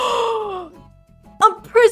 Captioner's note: gasp